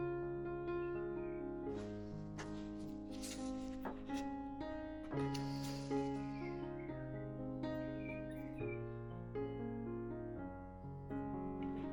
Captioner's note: puffing